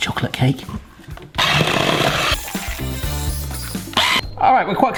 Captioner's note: whisk whizzing